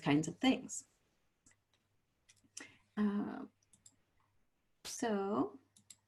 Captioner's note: silence